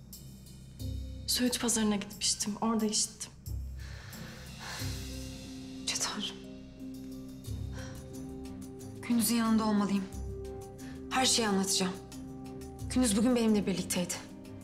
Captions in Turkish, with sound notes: Söğüt pazarına gitmiştim, orada işittim. (İç çekme sesi) Yüce Tanrı’m. Gündüz’ün yanında olmalıyım. Her şeyi anlatacağım. Gündüz bugün benimle birlikteydi.